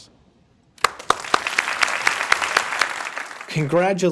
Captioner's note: crowd applauding